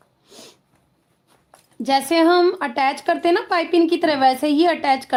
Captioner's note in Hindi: नाक से की जाने वाली आवाज़